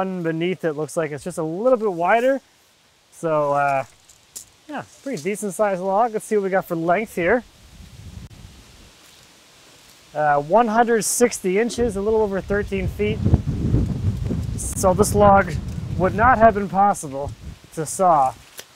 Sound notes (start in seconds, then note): 13.4 wind susurrates